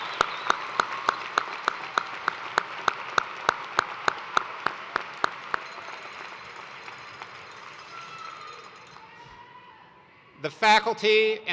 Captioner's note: cheers and applause